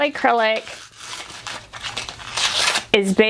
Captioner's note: paper crumpling